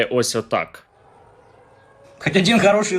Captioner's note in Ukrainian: звук повітряної тривоги